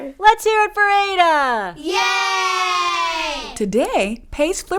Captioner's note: kids cheer